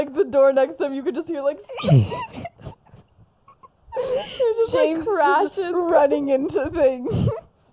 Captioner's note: laughs